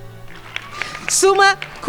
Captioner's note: crowd applauding